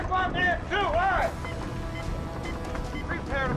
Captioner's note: beeping